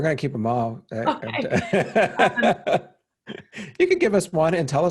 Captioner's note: laughing